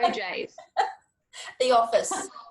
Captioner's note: laughs